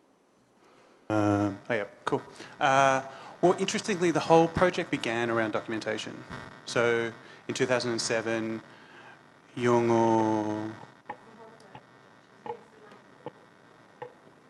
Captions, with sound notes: Well, interestingly, the whole project began around documentation. So, in 2007, Yolngu-- [MICROPHONE FEEDBACK]